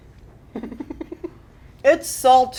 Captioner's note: laughs